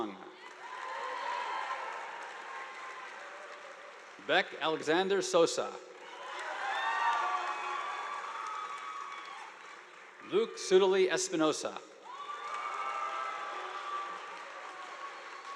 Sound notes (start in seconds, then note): 0.3 audience applauding